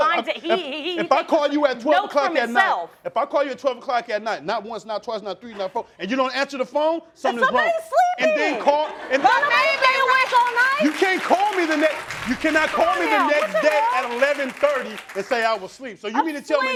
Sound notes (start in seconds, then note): 8.2 crowd laughing